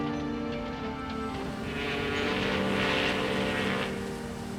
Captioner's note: ship horn blows